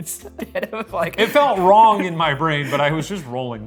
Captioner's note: laughing